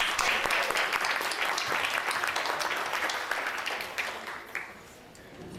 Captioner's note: audience applauding; audience chattering